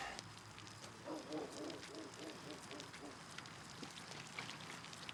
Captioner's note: dog barking